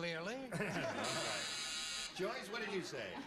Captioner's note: buzz